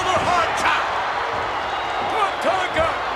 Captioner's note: audience cheers